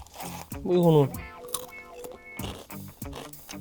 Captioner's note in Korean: 콰삭